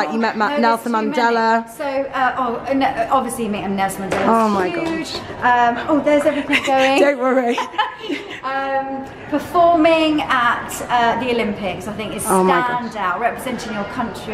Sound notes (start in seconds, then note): 6.2 laughs